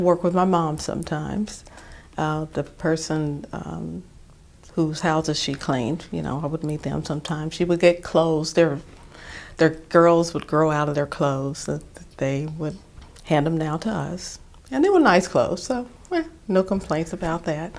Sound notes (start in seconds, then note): none